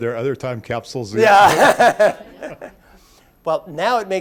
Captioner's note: laughs